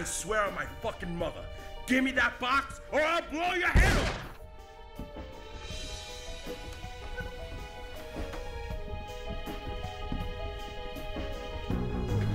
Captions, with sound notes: - I swear on my fuckin' mother, give me that box or I'll blow your head off! (gun fires) (tense music)